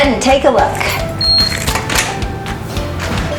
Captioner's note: door opens; beep